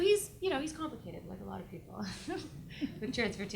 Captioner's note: laughs